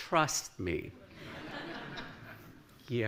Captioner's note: laughter